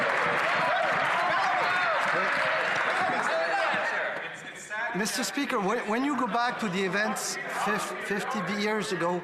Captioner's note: applause